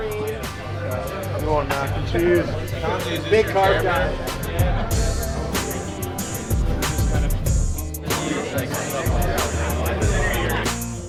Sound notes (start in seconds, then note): 4.6 laughs; 10.8 upbeat music